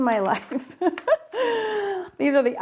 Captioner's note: laughs